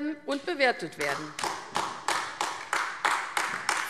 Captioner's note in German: Beifall AfD